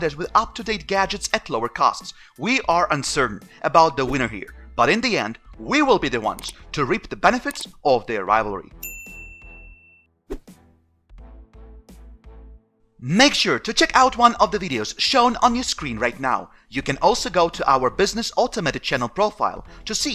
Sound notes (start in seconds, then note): 8.8 bell ringing; 10.3 whooshing; 11.0 upbeat music